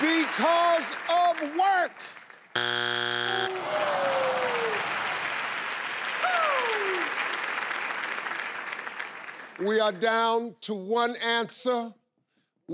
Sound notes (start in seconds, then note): 2.5 buzzing; 3.4 audience exclaiming in disappointment and clapping